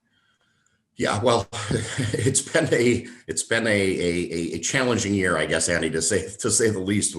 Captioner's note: laugh